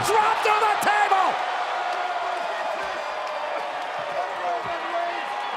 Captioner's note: crowd cheering